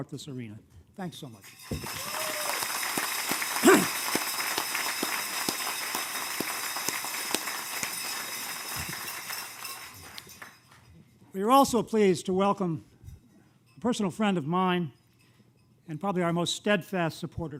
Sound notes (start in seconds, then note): 6.3 applause